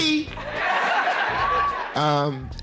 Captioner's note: laughing